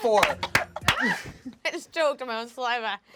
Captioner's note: coughing